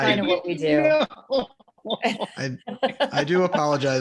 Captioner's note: cast laughs